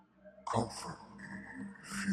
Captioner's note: none